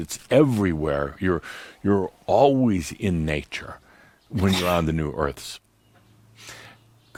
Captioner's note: sneezes